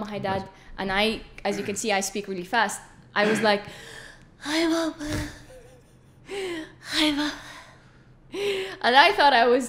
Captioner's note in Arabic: بطيئة جدًا ومنقطعة الأنفاس